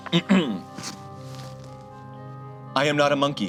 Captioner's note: clears throat